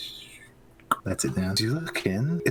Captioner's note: shhhh; klck